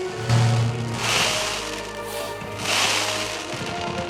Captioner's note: fireworks crackling